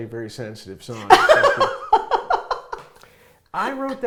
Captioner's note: laughing